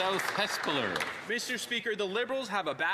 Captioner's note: applause